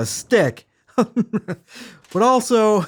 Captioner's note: laughs